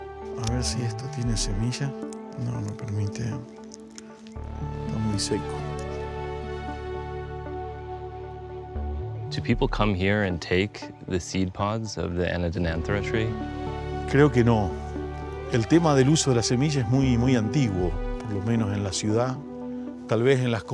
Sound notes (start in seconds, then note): 0.2 speaking Spanish; 13.7 speaking Spanish